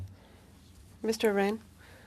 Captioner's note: speaking french